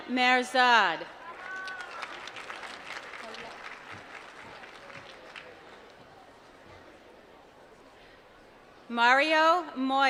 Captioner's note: applause